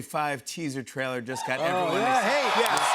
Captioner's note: cheers and applause